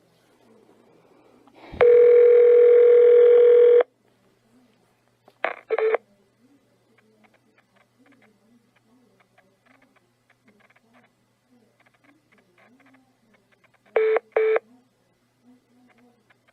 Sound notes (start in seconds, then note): 1.8 phone rings; 13.9 hold beep beeps